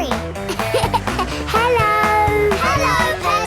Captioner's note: laughing